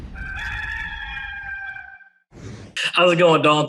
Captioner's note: rooster crows